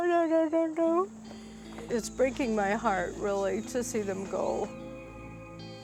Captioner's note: choking up